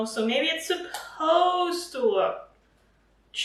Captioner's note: none